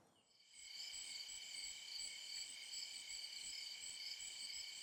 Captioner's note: crickets chirping